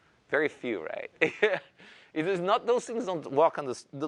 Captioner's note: laughs